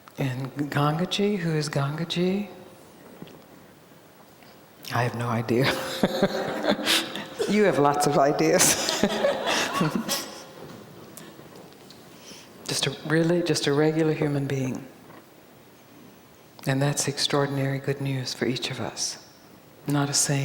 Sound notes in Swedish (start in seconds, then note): 5.7 alla skrattar